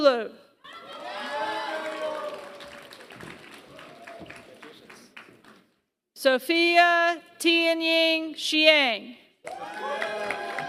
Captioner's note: applause; applause